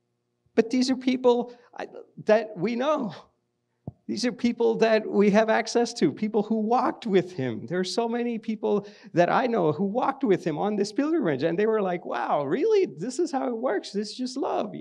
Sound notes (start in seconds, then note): none